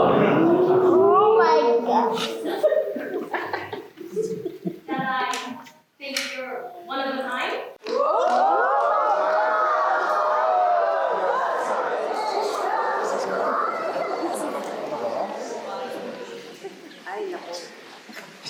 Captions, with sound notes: That I think you're one of a kind? [Howler & Applause]